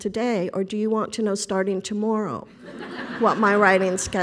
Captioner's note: laughing